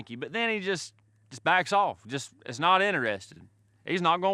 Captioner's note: none